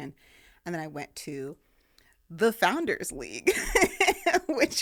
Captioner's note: laughing